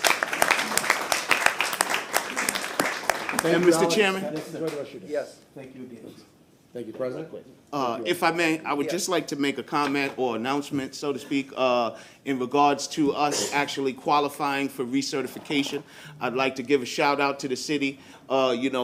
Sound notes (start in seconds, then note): 2.9 applause